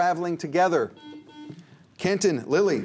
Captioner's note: buzzer